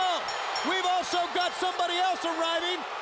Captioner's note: bell ringing